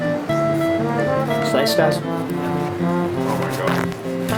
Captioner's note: non-english